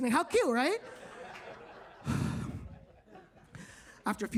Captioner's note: audience laughs